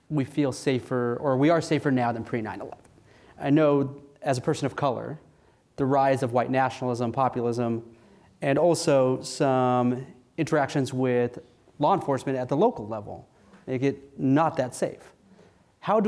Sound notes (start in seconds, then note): none